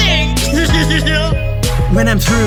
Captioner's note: chuckles